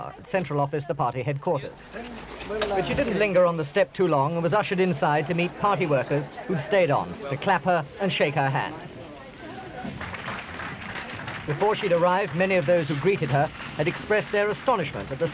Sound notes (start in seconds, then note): 9.8 clapping